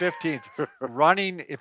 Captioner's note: laughs